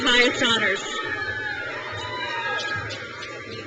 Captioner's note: crowd cheers